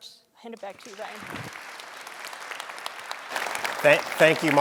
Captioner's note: audience applauding